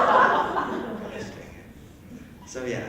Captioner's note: erupting Laughter; curses under breath